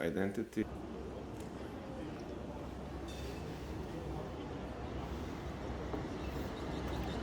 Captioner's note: birds chirping; traffic humming